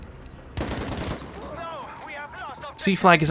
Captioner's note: gun firing